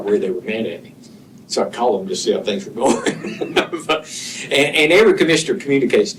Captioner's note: laughter